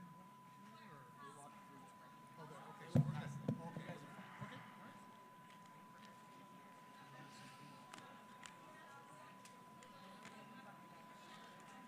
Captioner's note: applause